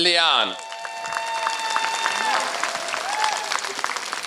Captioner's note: applause